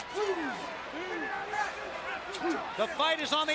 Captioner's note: crowd chatter